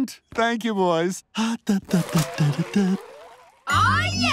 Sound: humming

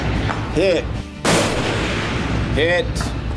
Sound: gunshot

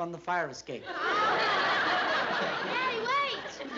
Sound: laughter

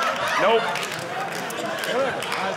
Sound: audience laughing

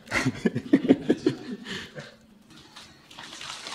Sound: laughs

